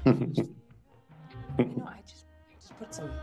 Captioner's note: laughs